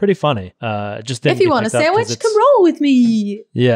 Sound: voice muffled

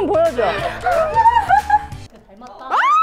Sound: laughing funny

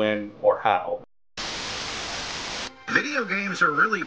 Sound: TV static hissing

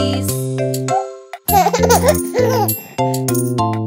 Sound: giggles; piano playing

